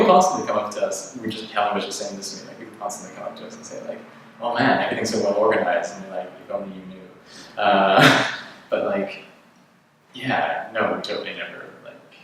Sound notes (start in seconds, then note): 7.8 laughs